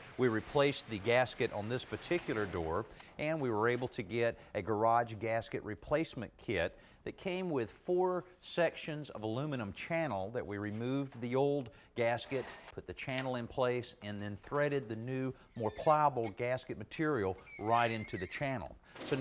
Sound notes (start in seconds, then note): 12.3 drill whirring; 17.3 metal squealing